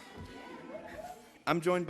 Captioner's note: laughter